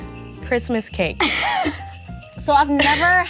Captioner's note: bells jingling; laughs